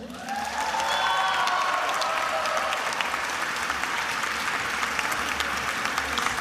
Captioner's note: attendees applauding and cheering